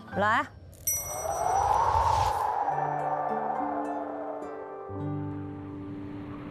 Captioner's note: wind